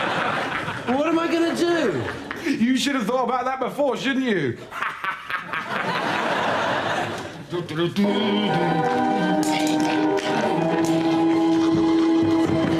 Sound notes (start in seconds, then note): 0.0 audience laughs; 4.6 laughs; 8.1 humming